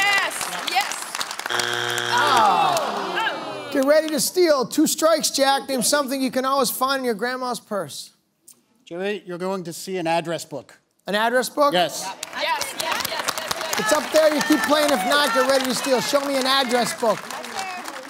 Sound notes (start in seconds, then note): 3.1 buzzer sounds; 4.3 audience groans